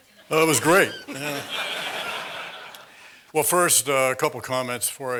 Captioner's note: laugh